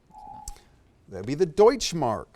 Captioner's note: whispering; alarm echoes